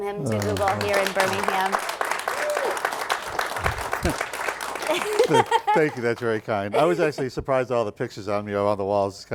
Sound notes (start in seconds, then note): 0.2 applause; 4.8 laughing